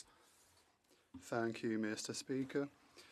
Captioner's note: speaking French